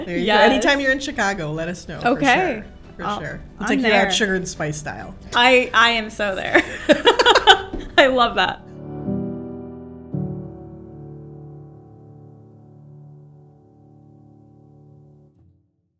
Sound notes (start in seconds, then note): 6.5 laughs; 8.2 gentle ambient music